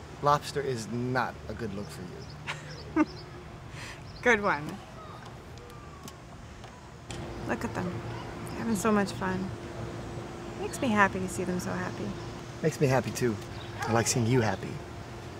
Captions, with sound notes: Lobster is not a good look for you. - (laughs) Good one. Look at them, they're having so much fun. Makes me happy to see them so happy. - Makes me happy, too. I like seeing you happy.